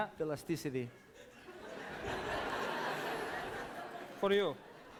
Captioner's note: laughter